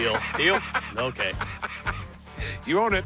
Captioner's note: laughs